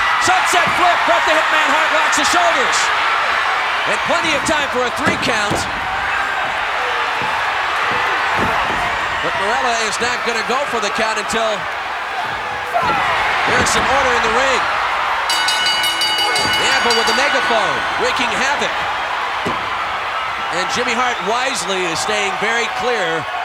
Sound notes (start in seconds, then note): 0.0 audience cheering; 2.9 audience cheering; 5.9 audience cheering; 14.8 audience cheering; 15.2 bell ringing